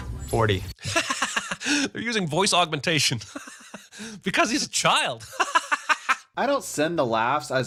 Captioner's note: laughs